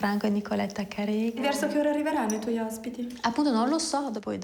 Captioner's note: speaks in foreign language